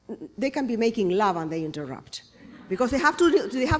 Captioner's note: laughter